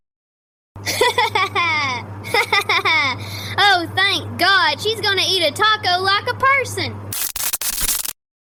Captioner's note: laughs